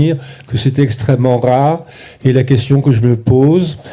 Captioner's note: speaking in French